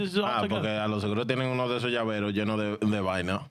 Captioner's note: speaking In Spanish